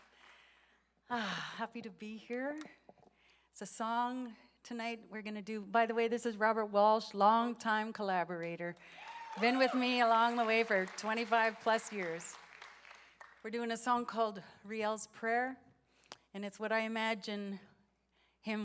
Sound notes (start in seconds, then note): 0.0 cheering and applause; 1.7 speaking Indigenous